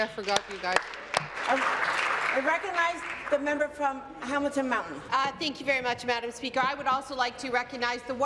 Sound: speaking in French

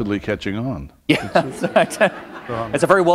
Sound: laughter

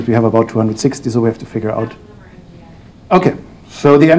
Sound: murmurs in response

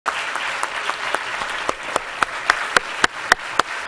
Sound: applause

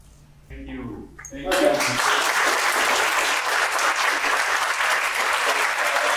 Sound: audience clapping

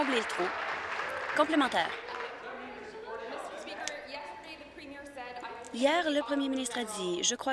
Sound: some Applause

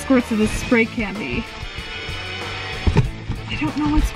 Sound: vehicle whining

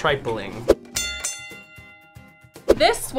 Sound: bell ringing

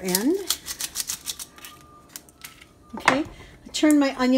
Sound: onion skin crackles

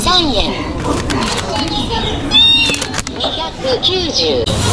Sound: laughing

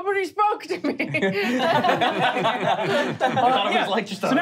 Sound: laughing

